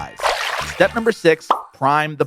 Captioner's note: water splashes